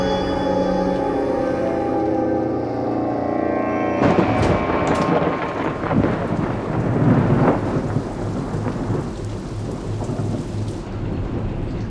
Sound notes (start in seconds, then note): 3.6 eerie music; 3.9 thunder rumbling